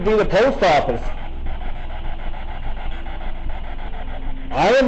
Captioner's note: static buzzing